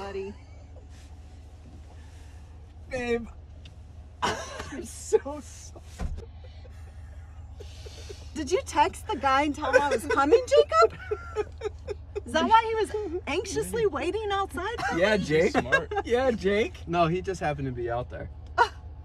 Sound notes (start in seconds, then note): 0.2 laughs; 6.2 laughs